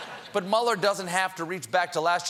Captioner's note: laughter